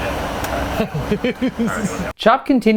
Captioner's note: laughing